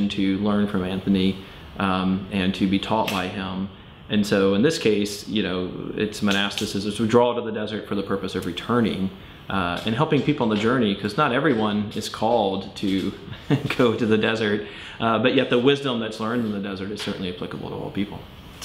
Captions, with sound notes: to learn from Anthony, and to be taught by him. And so, in this case, you know, its monastics, which would draw to the desert, for the purpose of returning, and helping people on the journey 'cause not everyone is called to [laughing] go to the desert. But yet the wisdom that's learned in the desert is certainly applicable to all people.